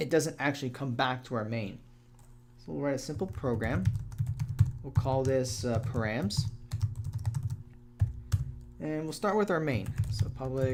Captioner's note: typing